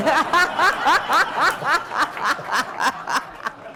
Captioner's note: laughter